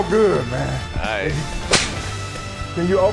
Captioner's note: intense dramatic music; whip cracking